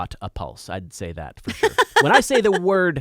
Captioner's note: laughing